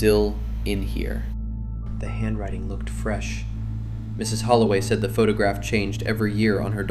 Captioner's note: quietly